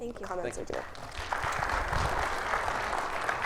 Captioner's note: audience applauding